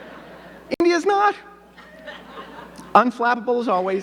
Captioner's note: audience laughing